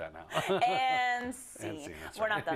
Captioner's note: laugh